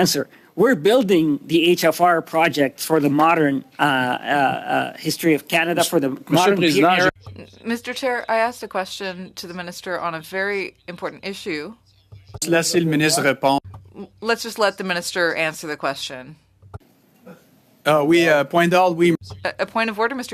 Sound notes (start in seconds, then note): 14.3 speaking French